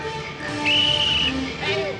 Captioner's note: whistle blows